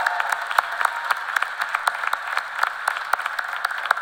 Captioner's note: cheers and applause